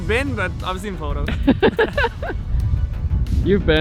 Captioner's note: laughing